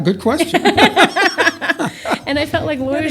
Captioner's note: laughter